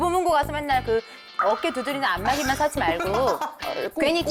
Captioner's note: popular item sound effect